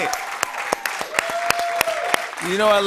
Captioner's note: cheers and applause